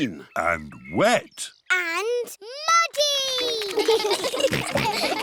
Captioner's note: children giggle